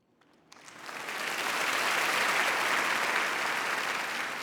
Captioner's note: audience applauding